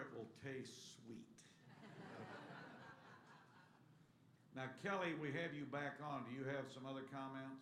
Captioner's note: laughter